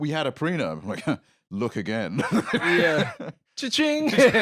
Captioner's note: laughs